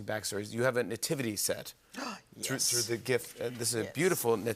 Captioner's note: gasps